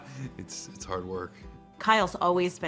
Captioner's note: laughs